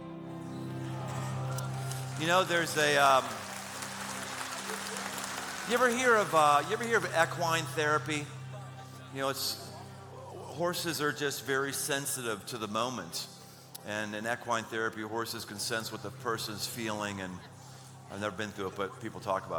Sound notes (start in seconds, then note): 4.6 applause